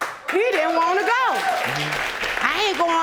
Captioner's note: audience applauding